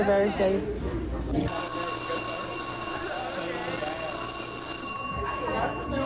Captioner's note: bell rings